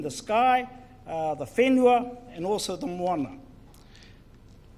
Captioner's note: speaks in foreign language